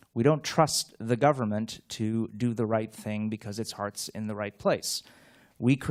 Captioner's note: none